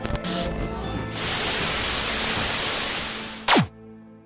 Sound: static fizzing; white light zapping

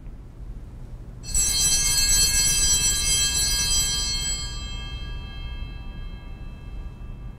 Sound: bells ringing

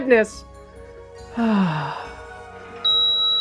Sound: happy sigh; elevator beep

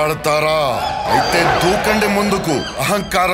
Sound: monkey army squeals in agreement

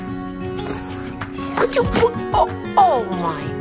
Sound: sneeze

